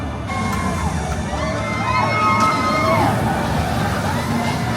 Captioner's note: riders screaming